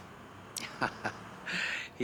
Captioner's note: chuckles